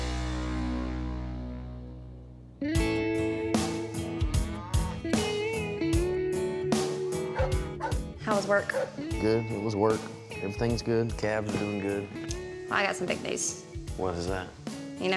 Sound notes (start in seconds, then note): 4.5 cow moos